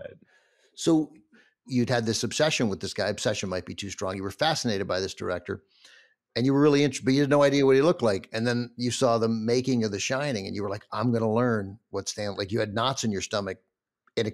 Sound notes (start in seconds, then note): none